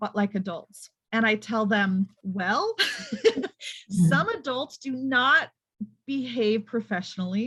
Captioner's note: laughs